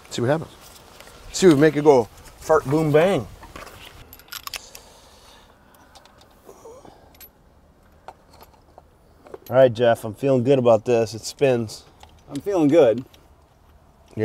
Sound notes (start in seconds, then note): 4.4 metal clacking